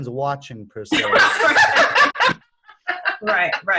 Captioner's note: laughing